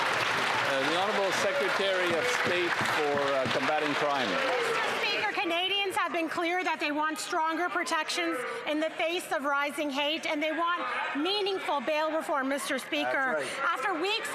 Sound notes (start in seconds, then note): 1.7 some Applause